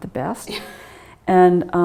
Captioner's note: laughing